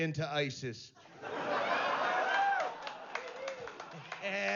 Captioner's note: risas, aplausos